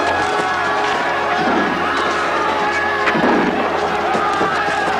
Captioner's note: Aplausos